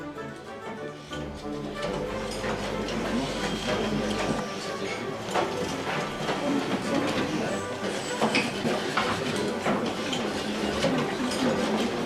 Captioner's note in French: bruits d'outils multiples